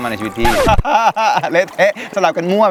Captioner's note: laughing